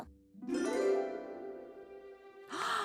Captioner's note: gasping